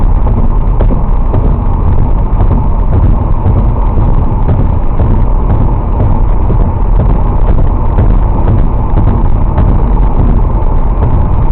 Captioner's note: audio partially breaks